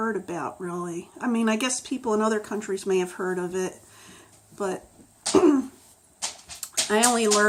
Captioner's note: clears throat